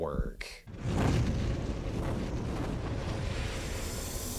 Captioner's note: logo roaring